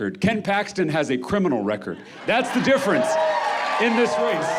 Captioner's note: crowd cheering